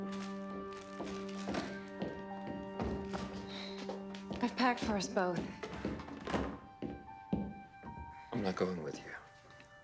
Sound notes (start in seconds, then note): 0.0 footstep; 5.6 door open close; 6.6 footstep